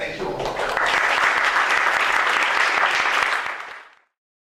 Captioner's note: applause